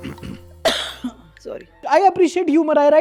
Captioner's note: coughs